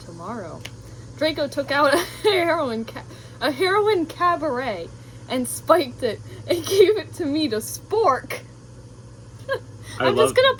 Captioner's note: laughter